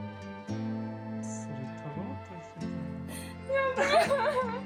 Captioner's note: laughs